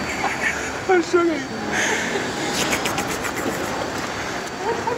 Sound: laughing

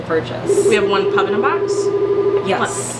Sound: phone ringing

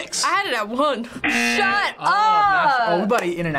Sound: buzzer rings

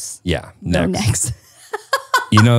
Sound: laughing

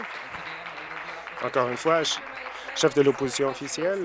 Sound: applause

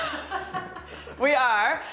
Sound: laughter

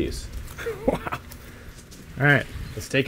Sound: laughing loudly

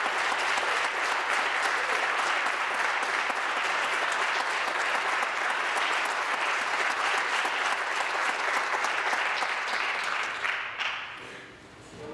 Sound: applause

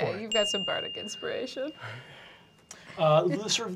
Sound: bell chimes

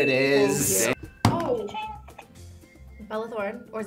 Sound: buzzer rings

